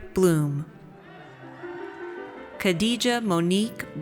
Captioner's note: audience cheers